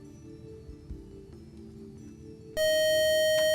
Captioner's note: loud buzzer